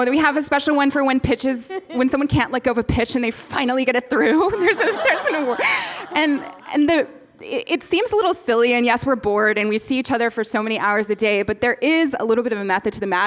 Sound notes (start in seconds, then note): 4.3 laughter; 4.4 laughing